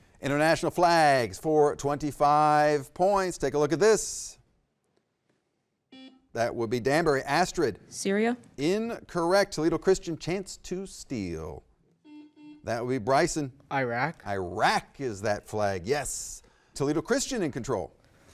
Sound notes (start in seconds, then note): 5.9 button beeping; 12.0 button beeping